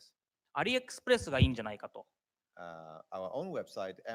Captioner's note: speaking japanese